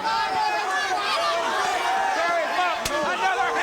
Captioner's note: audience shouting